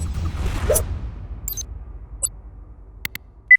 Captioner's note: shuriken stars whirring; sword slashing; mouse clicking